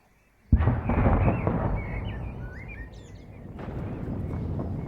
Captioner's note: explosion